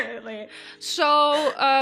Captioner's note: laughing